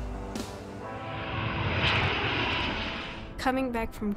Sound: sounds of jet engine

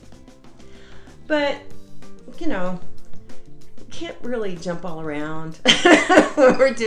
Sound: laughs

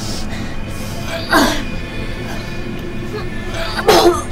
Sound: grunting; vomiting

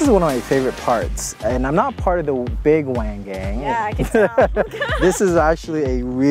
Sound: laughs

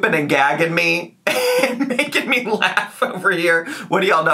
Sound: laughs

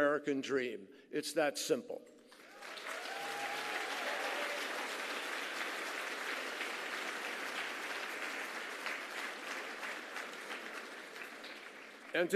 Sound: applause

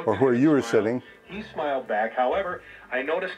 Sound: man On Radio

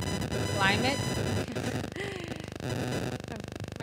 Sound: static

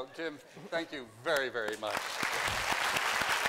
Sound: applause

